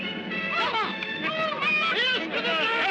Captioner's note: commotion